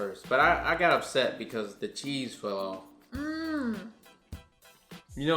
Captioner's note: none